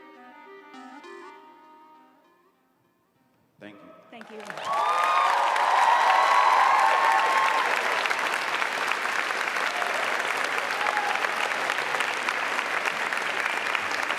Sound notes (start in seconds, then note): 9.3 applause